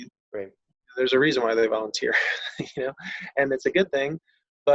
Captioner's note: laughs